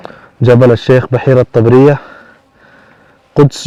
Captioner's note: Arabic